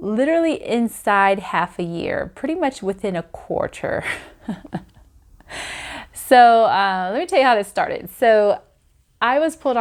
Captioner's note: laughs